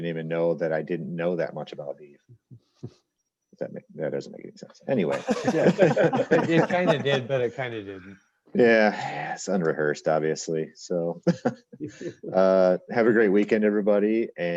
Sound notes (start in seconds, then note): 5.1 all laughs